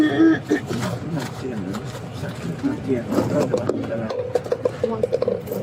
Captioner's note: speaking in foreign language